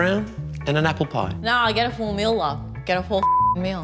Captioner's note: ocker voice